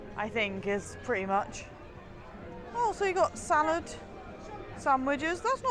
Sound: none

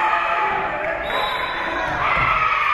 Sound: whistle being blown; spectators cheering and applauding

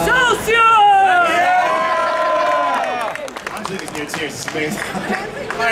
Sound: audience cheering

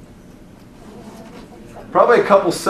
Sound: students voices chattering

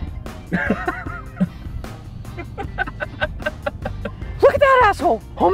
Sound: laughter

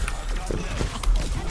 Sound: chuckle

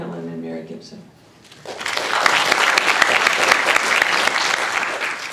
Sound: applause

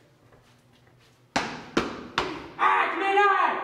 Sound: foot stomps

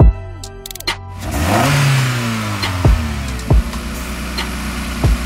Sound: engine revs

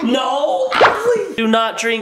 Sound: gallon pops

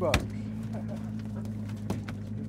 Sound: chuckling; fish thrashing

